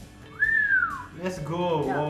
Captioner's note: whistling